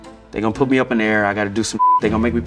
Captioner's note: beep